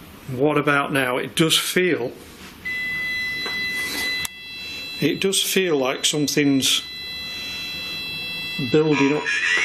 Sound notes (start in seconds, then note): 2.6 machine beeping